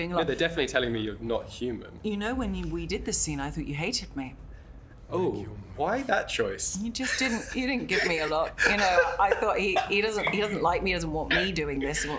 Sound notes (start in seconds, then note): 8.7 laughs